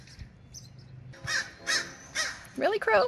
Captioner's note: crow caws